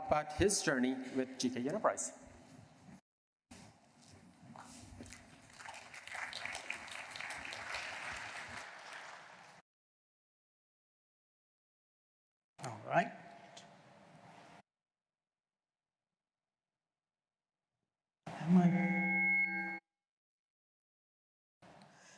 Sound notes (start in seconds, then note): 5.0 applause